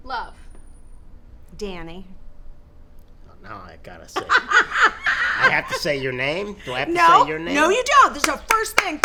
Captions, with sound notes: -: Love. -: Danny. -: Now I gotta say-- (laughing) I have to say your name, do I have to say your name? -: No you don't, this is a first thing.